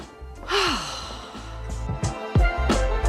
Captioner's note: sighs